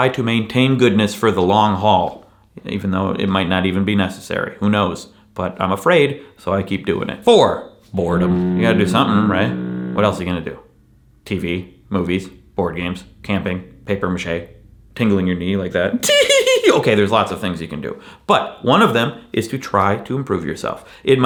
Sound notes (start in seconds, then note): 7.9 ship horn blares; 15.9 giggles